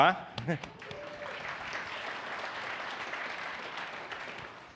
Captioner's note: audience applauds